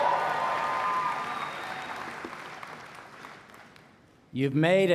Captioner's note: applause